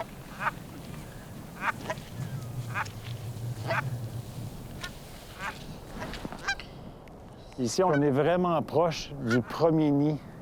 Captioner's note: cackle